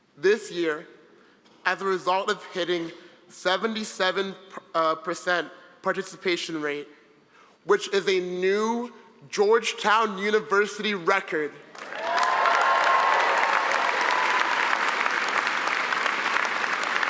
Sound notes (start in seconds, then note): 11.7 applause; 11.8 cheering